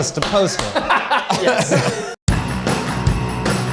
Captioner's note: laughs; upbeat music